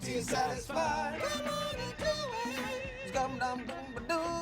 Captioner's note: falsetto voice